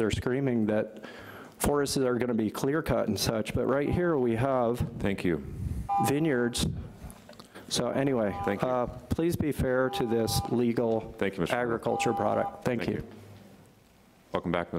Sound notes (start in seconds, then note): 5.9 beep